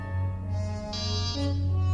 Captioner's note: door buzzer